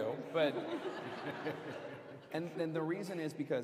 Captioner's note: laughter